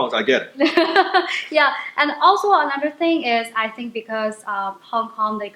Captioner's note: laughs